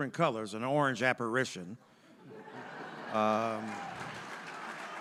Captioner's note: audience laughing